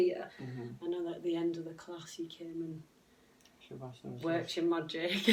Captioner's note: laughs